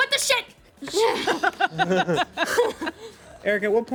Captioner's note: everyone laughs